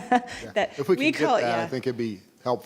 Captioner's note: laughing